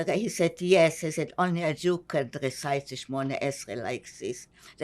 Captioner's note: hebrew; hebrew